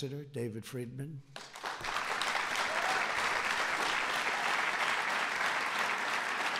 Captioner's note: applause